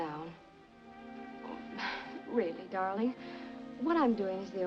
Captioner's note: sighs